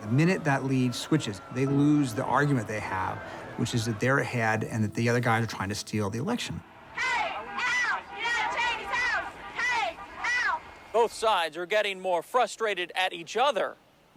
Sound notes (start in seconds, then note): 6.7 chanting